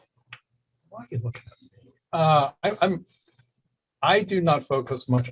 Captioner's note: murmurs